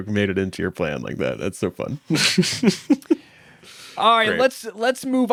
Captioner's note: laughs